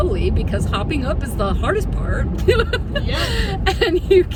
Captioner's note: laughs